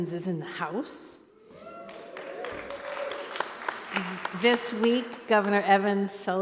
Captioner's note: cheering